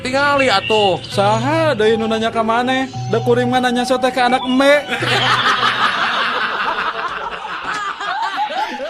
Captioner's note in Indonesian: tertawa